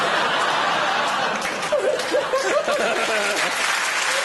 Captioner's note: laughter and applause